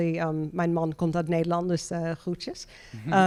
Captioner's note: speaking in German